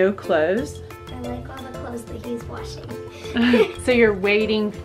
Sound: laughs

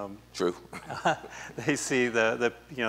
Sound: laughs

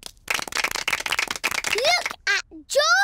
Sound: applause

